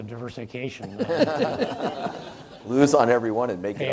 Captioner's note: audience laughs